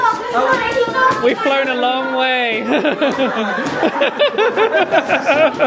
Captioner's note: laughing